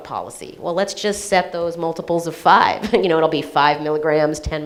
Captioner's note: laughs